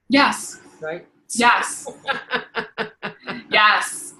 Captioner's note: laughing